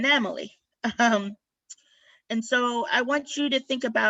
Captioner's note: laughter